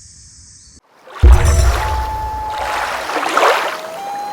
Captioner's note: water rushing, loon calling